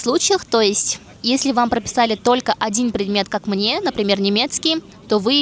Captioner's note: German